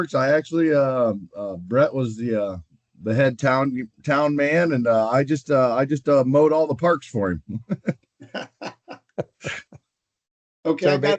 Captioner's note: laughter